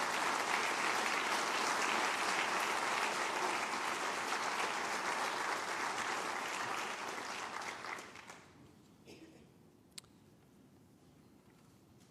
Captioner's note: applause